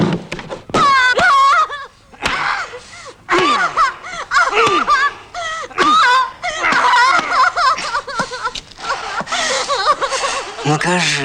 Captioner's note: screaming of torture is heard